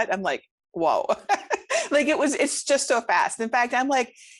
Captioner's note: laughs